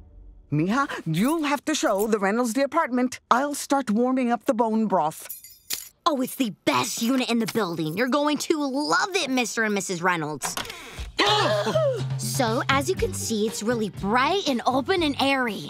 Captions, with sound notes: Mija, you'll have to show the Reynolds the apartment. I'll start warming up the bone broth. Oh, it's the best unit in the building. You're going to love it, Mr. and Mrs. Reynolds. [gasping] So, as you can see, it's really bright and open and airy.